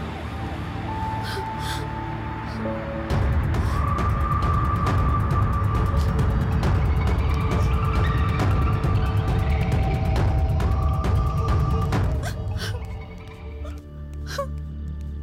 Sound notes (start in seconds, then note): 12.2 crying